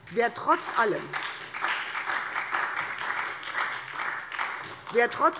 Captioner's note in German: Beifall SPD und DIE LINKE